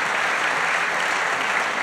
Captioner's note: applause